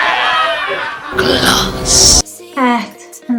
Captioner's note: scream